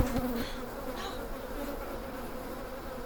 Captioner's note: clanks; grunting; buzzing